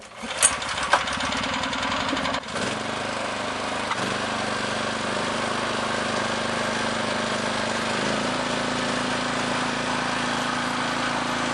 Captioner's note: the sound of a motorized cultivator’s motor is heard